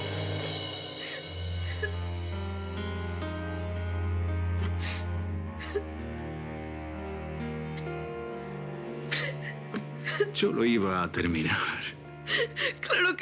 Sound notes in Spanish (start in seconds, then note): 7.1 Sollozos